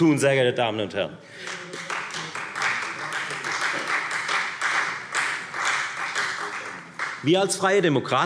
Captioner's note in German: Beifall Freie Demokraten